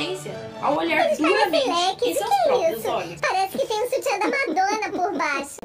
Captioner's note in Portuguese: menina falando com voz modificada